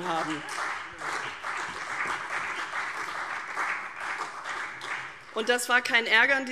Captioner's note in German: Beifall CDU und BÜNDNIS 90/DIE GRÜNEN